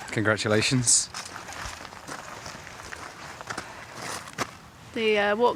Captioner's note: footsteps